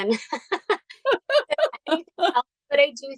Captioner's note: laughter